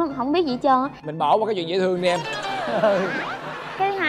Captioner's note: laughing